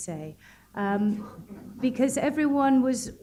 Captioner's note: chuckling